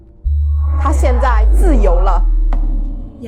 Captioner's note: Mandarin language